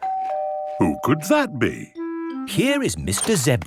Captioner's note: doorbell ringing